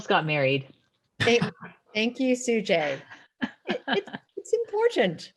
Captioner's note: laughs